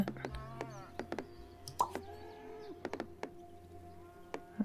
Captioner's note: in-game animal noises